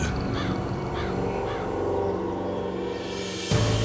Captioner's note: crows cawing